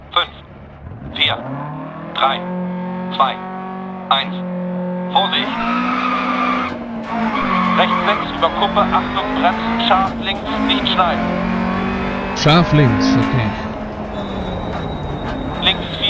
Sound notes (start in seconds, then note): 5.7 engine revving and tires screeching; 9.2 engine sounds and co-pilot's instructions